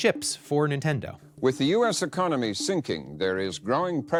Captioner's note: soundbite of archived recording